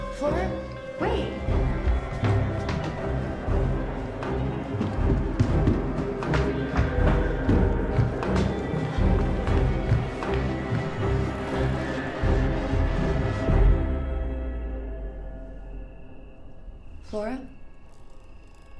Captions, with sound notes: - Flora? Wait. (tense music) (footsteps thumping) (tense music) Flora?